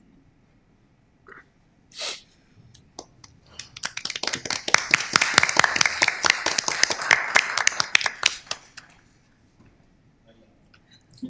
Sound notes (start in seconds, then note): 3.4 applause